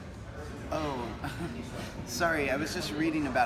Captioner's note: chuckles